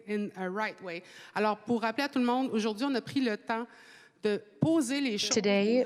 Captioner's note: speaking French